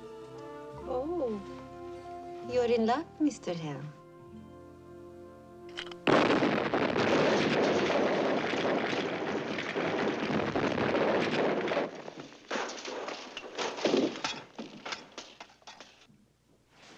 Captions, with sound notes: OH, YOU'RE IN LUCK, MR. HELM. [explosion rumbling] [thudding]